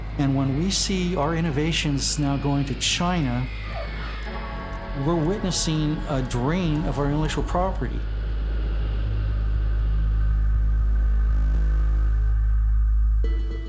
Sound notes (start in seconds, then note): 3.8 plane landing; 8.8 base noise; 13.4 instrumental music